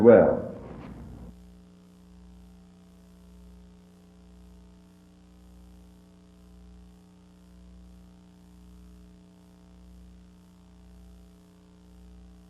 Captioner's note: silence